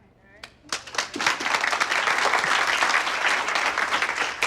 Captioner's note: applause